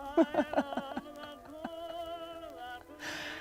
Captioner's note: laughing